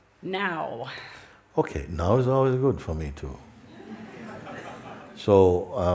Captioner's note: laughter